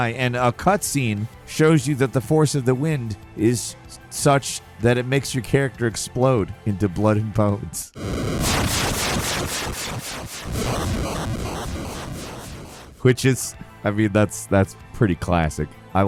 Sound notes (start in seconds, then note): 8.0 explosions echoing